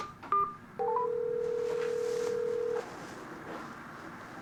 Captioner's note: tone beeping; phone ringing